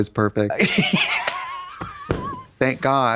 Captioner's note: Katya rattles